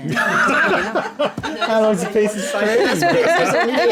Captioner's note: laughing